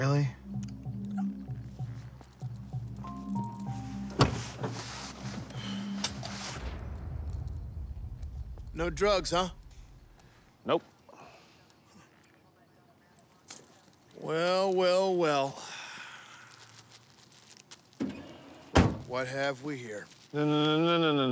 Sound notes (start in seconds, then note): 5.5 sighs; 5.7 seatbelt clicks; 18.9 trunk closes